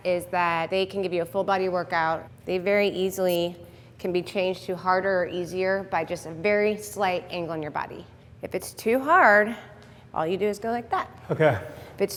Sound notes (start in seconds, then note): 3.2 watch beep